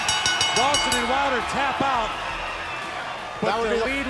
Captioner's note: bell ringing